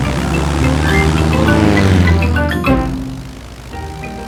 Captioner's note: plane engine revving